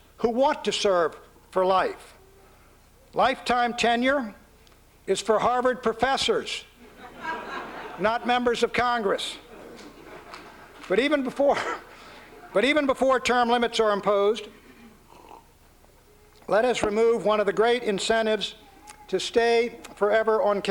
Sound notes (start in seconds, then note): 6.8 laughter; 9.4 chuckles